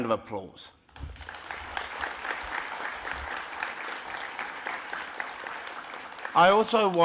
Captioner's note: applause